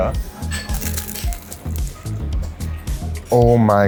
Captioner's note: crunchy bite